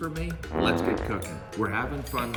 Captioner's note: raspberry blowing